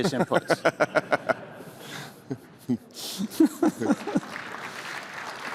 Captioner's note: laughter; applause